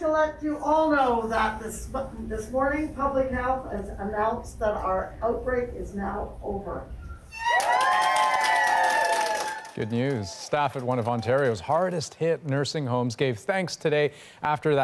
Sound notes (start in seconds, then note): 9.3 cheers and applause